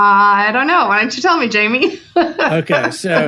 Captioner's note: laughs